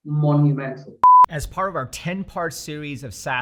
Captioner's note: beep sound